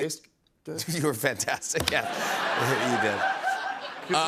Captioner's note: laughter